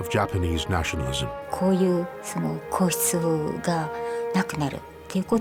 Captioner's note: speaking in Japanese